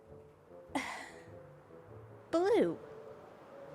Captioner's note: sighs